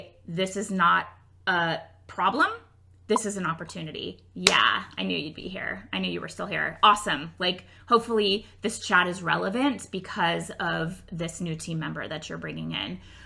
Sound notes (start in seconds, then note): 4.4 clap